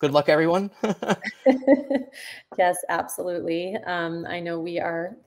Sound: laughs

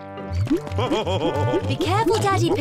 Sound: laughs

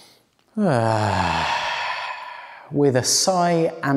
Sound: exhales

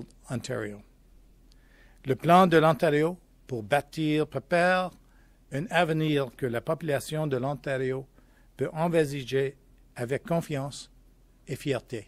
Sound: speaking french

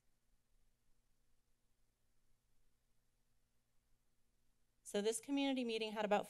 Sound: silence

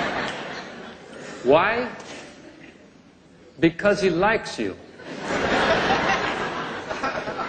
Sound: laughter; laughter

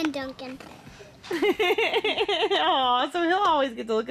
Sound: laughing

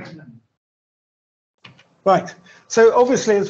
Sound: clapping

